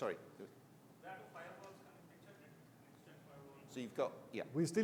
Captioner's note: faintly speaks